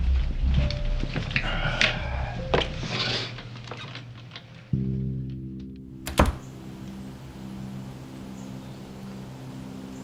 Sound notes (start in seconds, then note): 6.0 door clicks shut